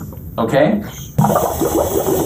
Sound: bubbling

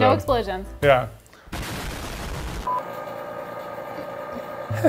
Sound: explosion crashing

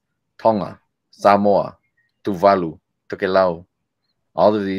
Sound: speaking foreign language

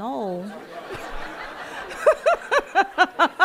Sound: audience laughing; laughing

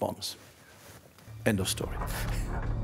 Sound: laughs

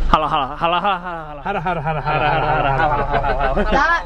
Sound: laughing

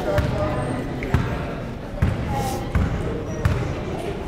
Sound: crowd conversing

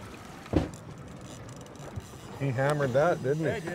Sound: reel spinning

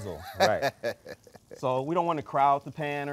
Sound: presenter laughing

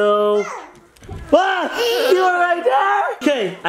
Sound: shouts

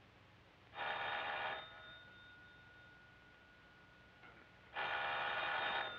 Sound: phone ringing

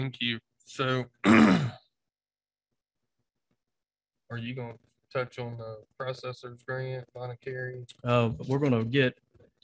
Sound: clears throat and long pause

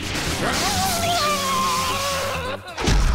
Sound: chuckles; howls; blast

